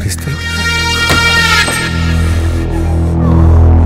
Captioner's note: Door opens